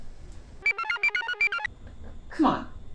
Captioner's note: computer chirps